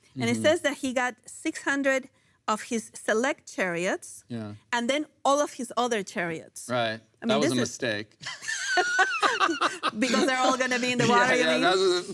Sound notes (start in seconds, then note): 8.3 laughs